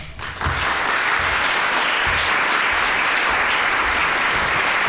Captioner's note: audience applauding